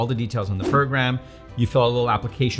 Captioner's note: air whooshing